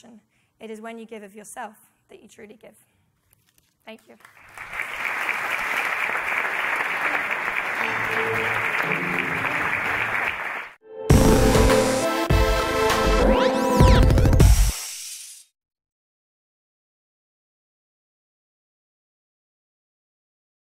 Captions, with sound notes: it is when you give of yourself that you truly give." Thank you. [audience cheering] [upbeat music]